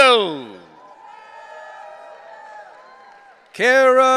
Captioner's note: audience cheering